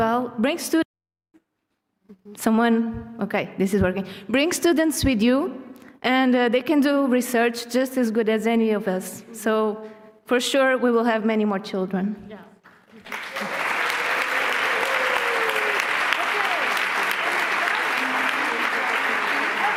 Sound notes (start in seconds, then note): 12.6 applause